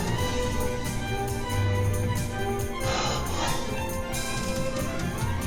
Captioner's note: gasping for breath